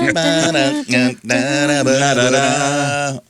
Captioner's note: humming